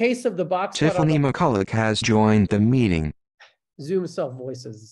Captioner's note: voiceover